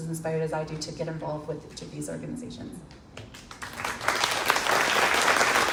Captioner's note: crowd claps